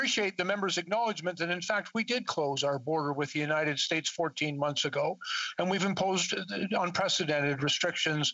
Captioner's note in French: voix de l'interprète